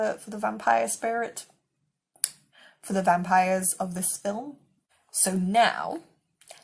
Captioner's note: clicks tongue